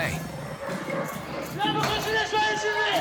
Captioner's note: lion roars; speaking in foreign language